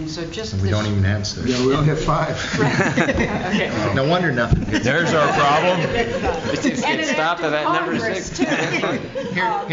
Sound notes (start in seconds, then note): 2.4 laughter